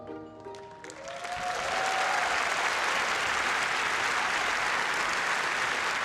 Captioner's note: applause